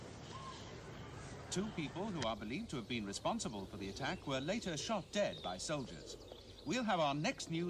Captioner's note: radio news